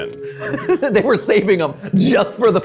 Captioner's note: chuckling